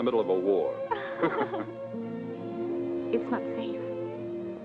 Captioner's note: both laugh